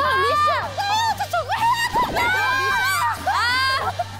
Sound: running

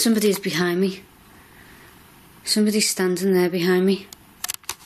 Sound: none

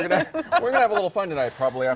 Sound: laughter

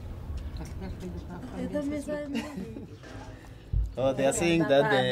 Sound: speaking native language

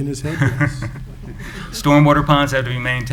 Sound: chuckling

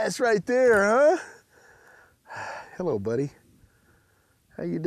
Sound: sighs

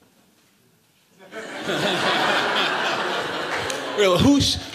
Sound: laughter

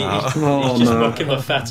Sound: murmurs

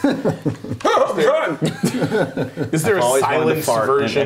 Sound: laughing

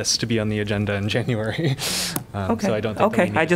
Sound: laughter

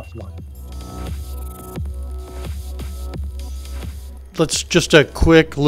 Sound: background music playing; machine whirring

